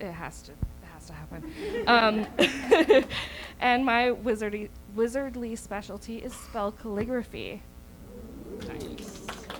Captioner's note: audience oohs